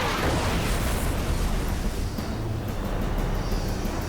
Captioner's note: explosion